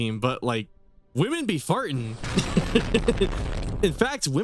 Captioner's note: laughs